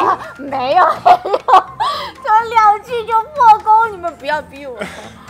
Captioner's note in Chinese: 哈哈哈哈哈